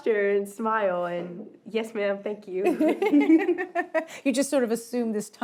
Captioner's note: laughs